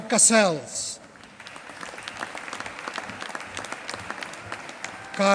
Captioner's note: applause